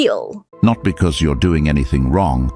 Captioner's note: AI Voice